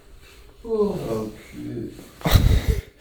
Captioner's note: unhappy mumbling